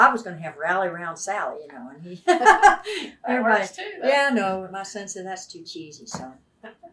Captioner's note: laughs